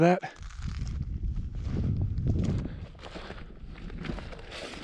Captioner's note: gravel crunching